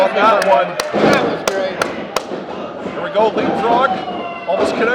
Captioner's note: clapping